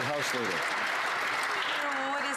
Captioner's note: some Applause